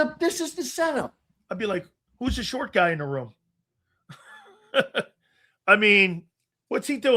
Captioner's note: laugh